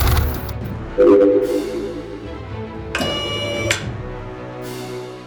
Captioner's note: machine whirring